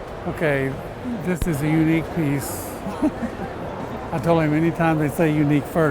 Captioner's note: laugh